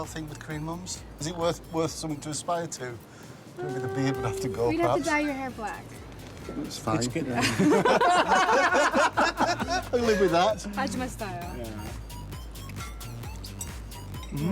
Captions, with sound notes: Is there a style thing with Korean mums? Is it worth something to aspire to? -The beard would have to go. -You'd have to dye your hair black. -It's fine. -[laughter] I can live with that. -Ajumma style. -Yeah.